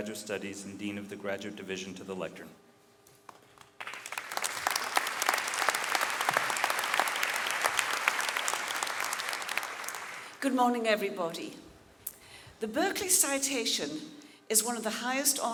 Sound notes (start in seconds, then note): 3.3 audience clapping